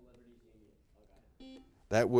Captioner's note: players murmuring; buzzer beeping